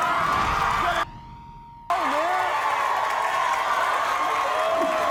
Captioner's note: audience cheers and applauds